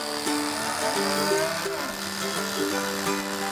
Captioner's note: clippers sheering; cows mooing